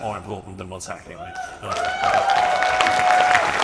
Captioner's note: audience applauds and cheers; speaks faintly